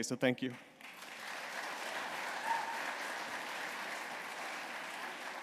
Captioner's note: applause